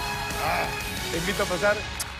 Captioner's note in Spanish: aplausos